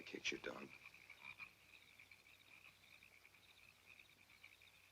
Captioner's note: frogs croaking